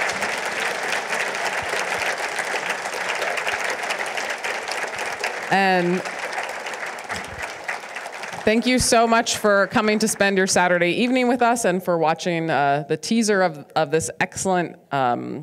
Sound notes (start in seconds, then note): 4.5 audience applauding